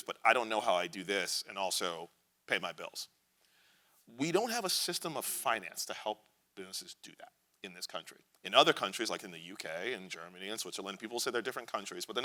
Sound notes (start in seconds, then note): none